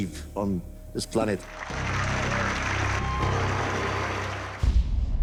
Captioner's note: applause